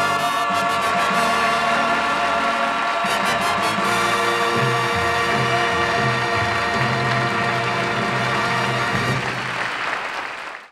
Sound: audience applauding

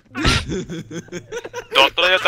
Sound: laughing

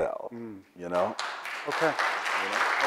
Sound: audience applauds

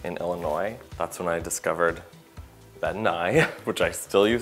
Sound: laughs

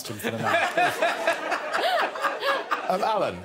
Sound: all laughing

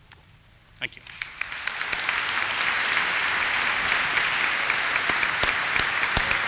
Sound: applause

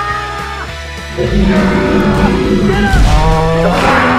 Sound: screaming; dinosaur roaring

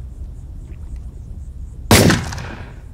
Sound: shot fired

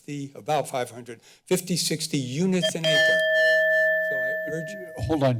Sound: bell rings

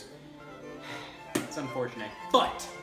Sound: sighs

